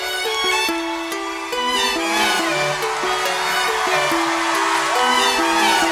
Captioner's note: crowd cheering